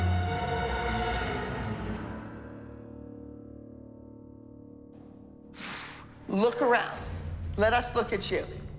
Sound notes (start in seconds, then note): 5.5 exhales